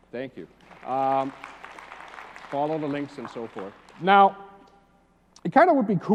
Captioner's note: applause